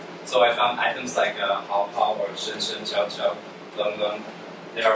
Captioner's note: speaks Chinese